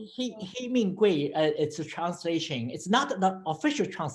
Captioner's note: foreign language